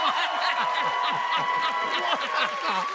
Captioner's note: laughter